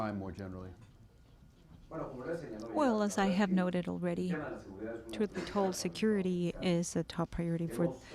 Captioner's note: through translator